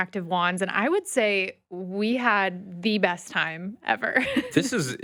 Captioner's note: laughs